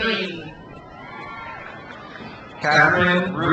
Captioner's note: crowd cheers